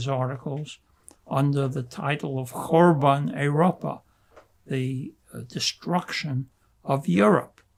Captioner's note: yiddish